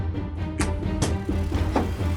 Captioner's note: door closing